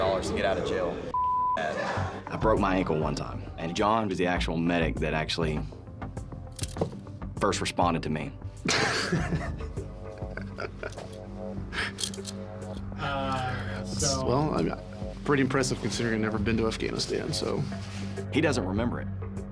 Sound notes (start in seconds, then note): 8.4 laughs